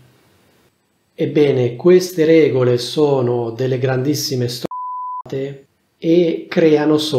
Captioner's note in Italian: beep